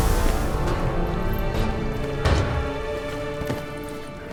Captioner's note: banging continues